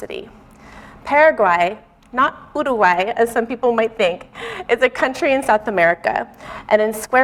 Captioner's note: mispronouncing